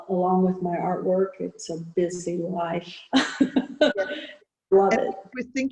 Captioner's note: laughing